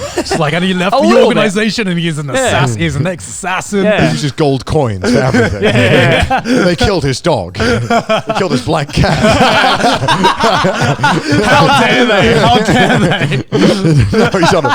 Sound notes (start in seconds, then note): 0.0 laughs; 9.4 everyone laughs